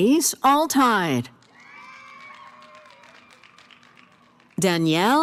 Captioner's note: cheering & applause